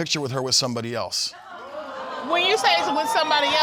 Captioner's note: audience exclaiming